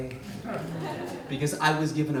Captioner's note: audience laughs